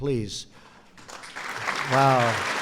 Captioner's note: applause